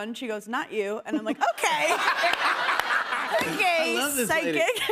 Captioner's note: laughter